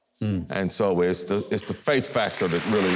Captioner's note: audience applauding